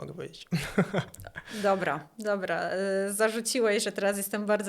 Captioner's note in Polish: śmiech